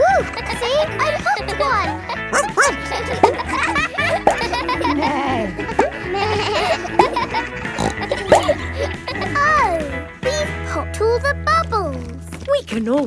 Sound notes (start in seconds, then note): 0.6 kids laughing; 2.3 barks; 5.3 bleats; 5.3 neighs; 8.2 snorts